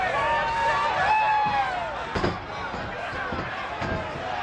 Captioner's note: audience cheers